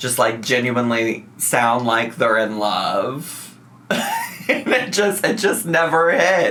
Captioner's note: laughs